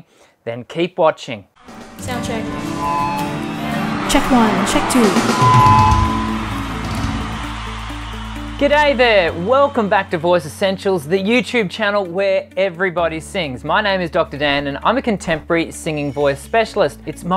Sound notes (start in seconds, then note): 5.8 drum music; 5.8 microphone screeching